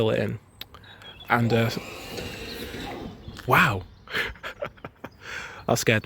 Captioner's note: points machine noise